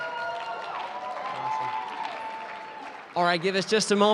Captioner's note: applause